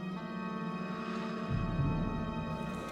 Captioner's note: blowing